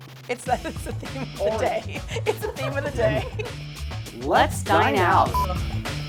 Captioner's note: laughs